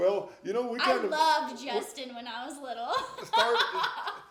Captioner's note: laughing; laughing